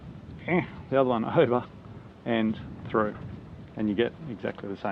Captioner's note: grunting